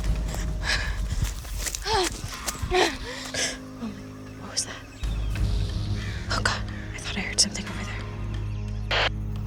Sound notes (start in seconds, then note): 1.6 gasps